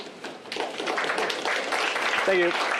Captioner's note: applause